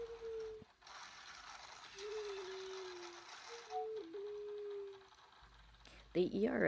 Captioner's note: Tsukiko continues making sad sounds; Tsukiko makes some sad sounds; gears whirring; Luna makes a noise as she sticks out her paw